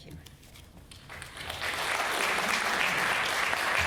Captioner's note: applause